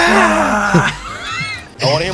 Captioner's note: wheezing intensifies